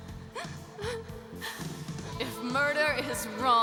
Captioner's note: quietly sobs